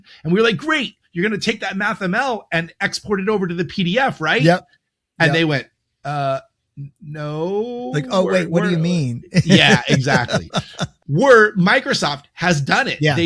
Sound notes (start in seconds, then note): 9.3 chuckling